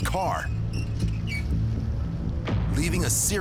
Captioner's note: keys screeching